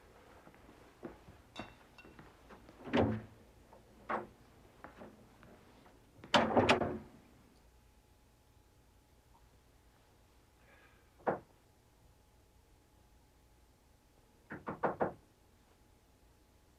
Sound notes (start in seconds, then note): 14.6 mengetuk pintu